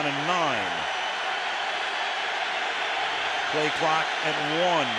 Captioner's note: crowd cheering